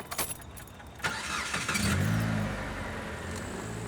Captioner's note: car engine starts